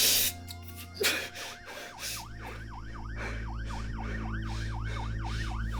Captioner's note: police sirens wailing